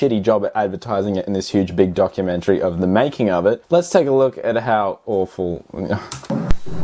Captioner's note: sighs